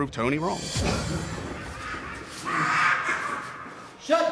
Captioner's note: coughs; inmate yelling